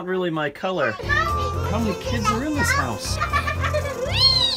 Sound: kids making noise; noises of kids giggling and having fun

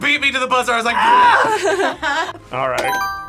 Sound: both laugh; buzzer rings

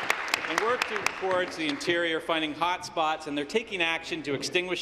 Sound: applause

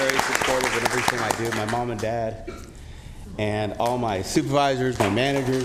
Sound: applause

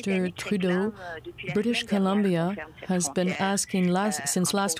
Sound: speaking french; speaking french

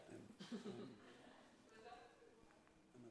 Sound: laughter

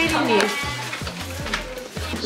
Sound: rummage

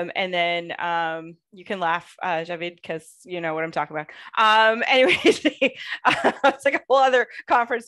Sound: laughter

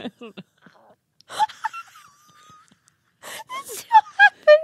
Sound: both laughing

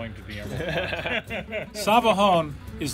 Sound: laughter

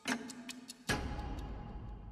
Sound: clock ticking; ticking stops

